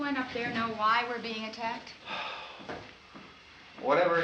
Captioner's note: sighs